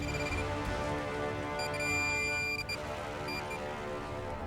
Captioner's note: beeping